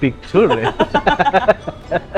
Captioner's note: laughs